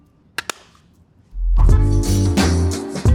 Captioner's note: lid closing; upbeat music